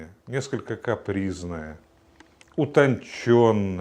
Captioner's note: Russian spoken audio